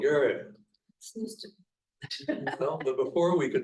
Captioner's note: laughing